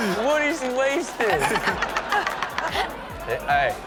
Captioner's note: audience laughs